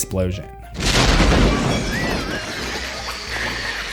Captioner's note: explosion